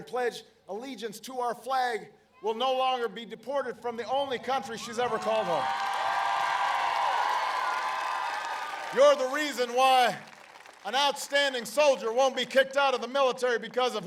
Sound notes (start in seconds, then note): 6.6 applause